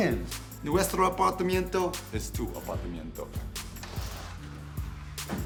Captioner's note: speaking foreign language